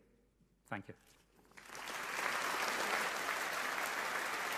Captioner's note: audience applauding